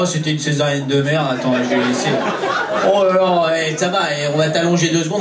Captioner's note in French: rires public